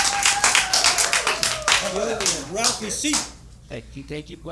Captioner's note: applause